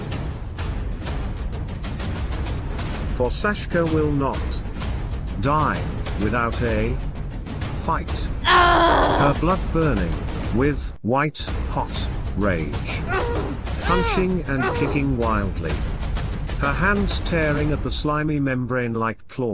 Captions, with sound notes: (War Drums) For Saska WILL NOT Die Without A FIGHT! (Shouting) Her Blood Burning With WHITE HOT RAGE! Punching And Kicking Wildly! Her Hands Tearing At The Slimy Membrane Like Claws!